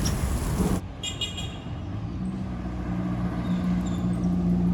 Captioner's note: horn honking